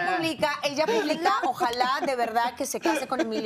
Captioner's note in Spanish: risas